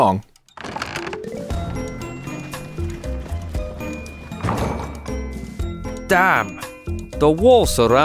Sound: gate opens, carriage moving

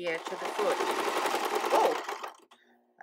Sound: sewing machine clattering

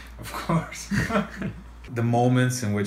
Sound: laughs

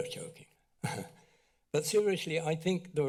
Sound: laughs

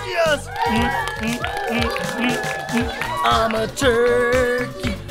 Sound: audience applauding

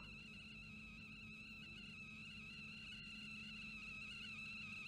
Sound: tea kettle whistle gradually becomes louder

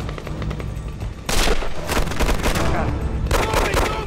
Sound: guns firing

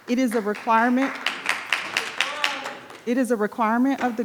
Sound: audience applauding

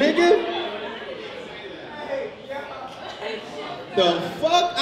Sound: overlapping chattering

